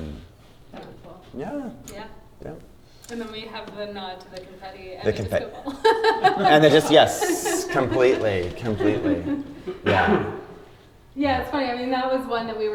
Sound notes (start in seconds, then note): 5.5 laughter